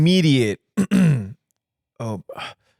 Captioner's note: clears throat